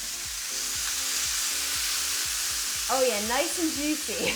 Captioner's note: pork chops sizzling; chuckling